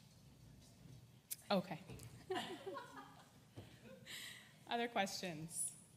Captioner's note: laugh